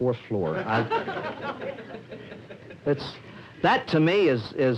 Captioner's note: laughter